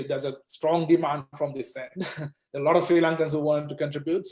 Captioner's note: chuckles